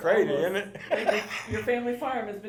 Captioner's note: laughs